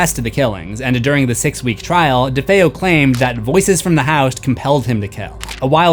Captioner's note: voices from the house